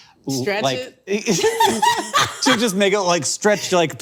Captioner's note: laughing